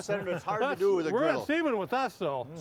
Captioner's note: laughing